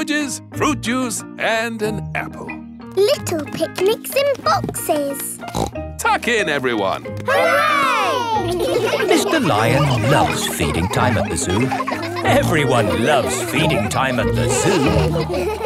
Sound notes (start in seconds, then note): 5.4 snorts